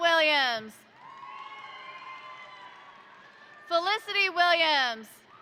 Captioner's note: crowd cheering; crowd applauding